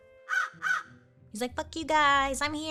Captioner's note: crow caws